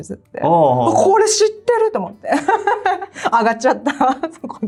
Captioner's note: laughs